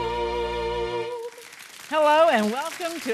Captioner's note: audience applauding